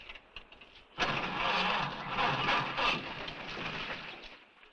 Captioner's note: engine cranks